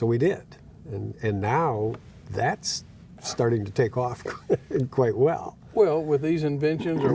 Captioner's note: laughing